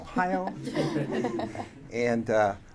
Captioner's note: audience laughing